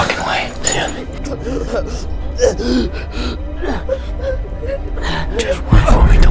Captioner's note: Ryder grunts in pain